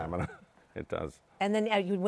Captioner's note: laughs